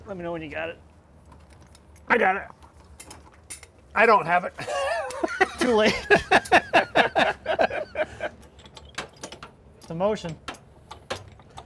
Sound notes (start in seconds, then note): 4.6 laughing; 7.2 both laughing